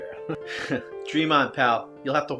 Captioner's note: chuckles